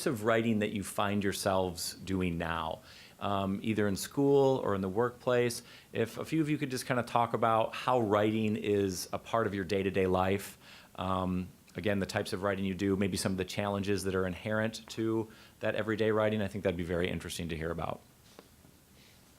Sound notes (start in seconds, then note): none